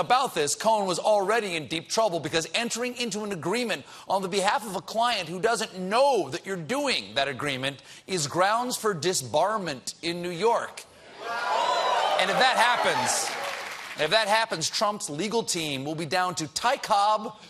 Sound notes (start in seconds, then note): 11.0 audience reacts